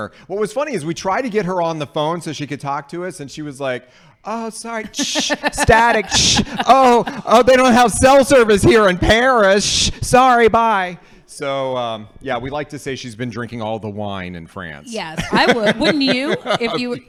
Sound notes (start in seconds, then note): 5.0 makes static noise